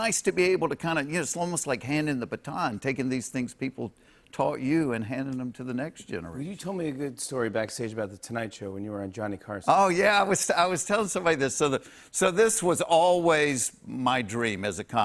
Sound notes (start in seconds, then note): none